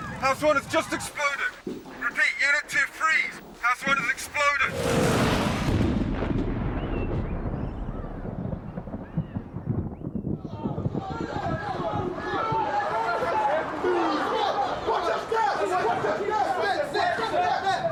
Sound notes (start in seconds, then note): 4.6 exploding; 11.0 men yelling